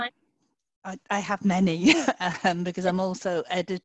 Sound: laughing

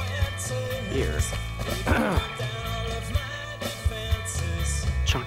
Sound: sassy music; clearing throat

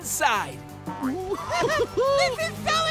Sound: giggling

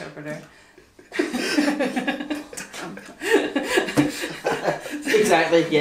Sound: all laugh

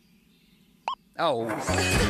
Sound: beep!; laughing

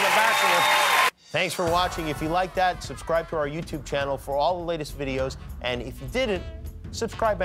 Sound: cheers and applause

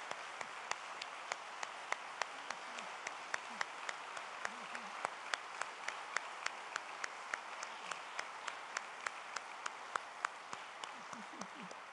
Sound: applause

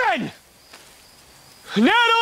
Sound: awkward silence

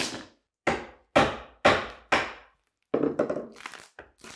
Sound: mallet bangs

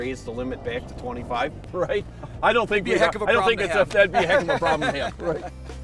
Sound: laughing

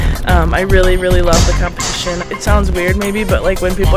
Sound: feet stomping; weights clanging

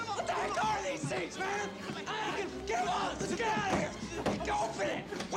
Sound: screaming

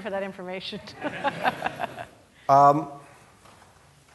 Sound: laughing

